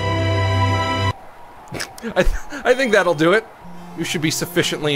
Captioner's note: snorts